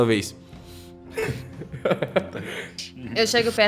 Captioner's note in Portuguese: risada do guaxi